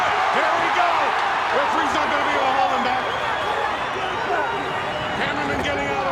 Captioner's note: audience cheers